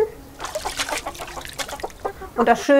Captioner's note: splashing, chicken clucking